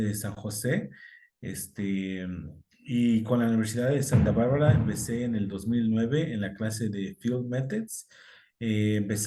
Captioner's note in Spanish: cohetes de fondo